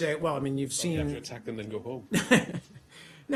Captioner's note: laughter